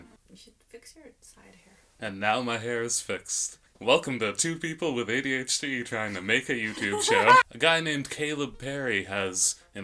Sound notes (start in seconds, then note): 6.7 maniacal laughter